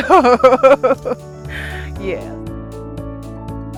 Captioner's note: laughs